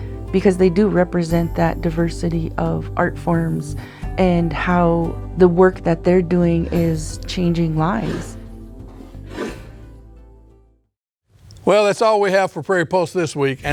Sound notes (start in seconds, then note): 8.4 scraping of animal hide